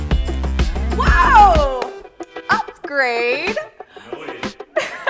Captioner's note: laughing